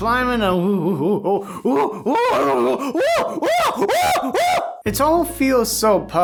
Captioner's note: monkey noises